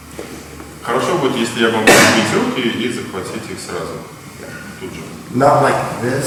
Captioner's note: speaking in a foreign language